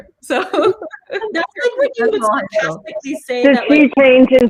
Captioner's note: laughing